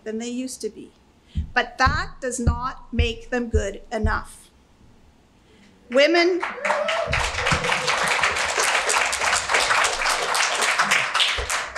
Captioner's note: clapping